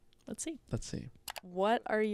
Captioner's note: computer mouse clicking